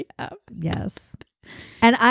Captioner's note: laughs